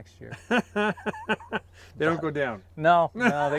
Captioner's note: laughs